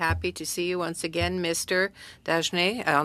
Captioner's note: speaking French